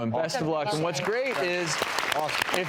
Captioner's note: applause